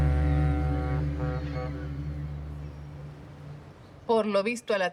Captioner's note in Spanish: Bocina del barco